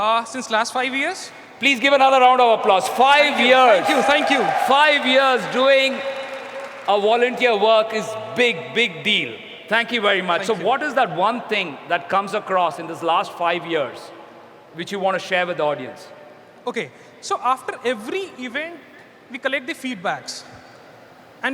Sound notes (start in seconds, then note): 3.6 applause